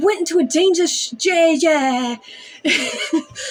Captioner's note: stammer; chuckle